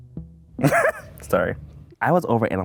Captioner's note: laughing